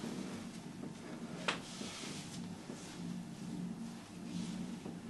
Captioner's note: rope rustling